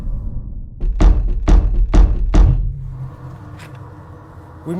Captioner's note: door slamming